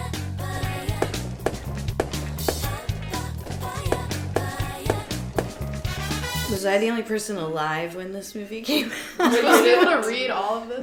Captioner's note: laughs